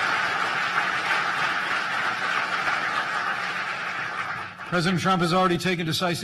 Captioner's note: applause